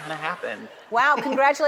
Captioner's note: chuckles